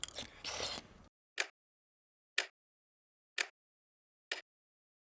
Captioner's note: clock ticking